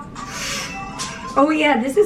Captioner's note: gasps